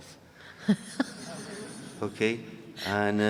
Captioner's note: audience laughing